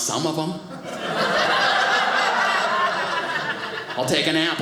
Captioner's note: audience laughing